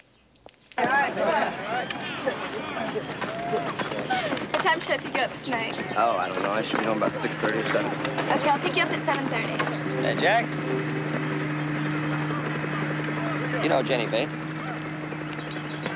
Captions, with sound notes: [chatter] Did you want to see me, Mr. Smith? Yeah, Jenny.